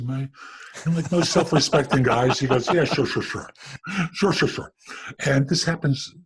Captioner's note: both laughs